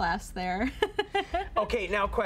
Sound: giggling

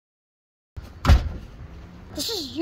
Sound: door close

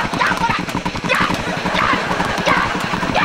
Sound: grunting

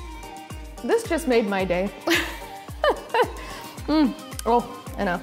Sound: laughing

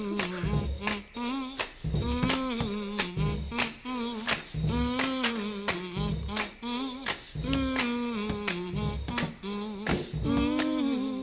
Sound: giggling; humming

